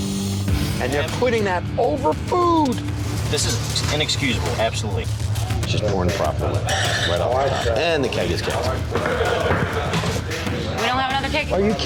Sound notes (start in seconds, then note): 2.8 hand slapping; 8.8 knuckles rapping